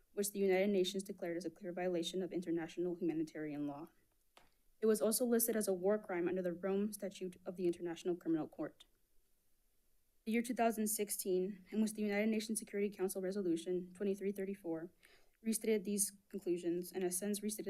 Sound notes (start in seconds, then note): none